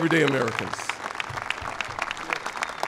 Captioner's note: applause